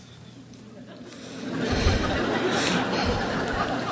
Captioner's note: crowd laughs